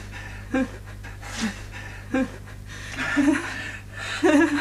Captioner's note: woman sobbing